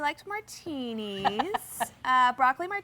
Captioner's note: laughing